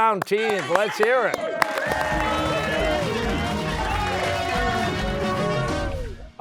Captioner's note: cheers and applause